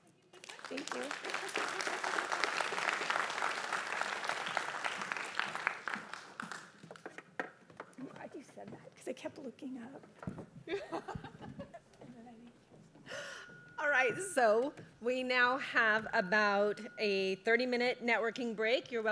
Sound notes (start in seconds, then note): 1.8 applause; 10.7 laughs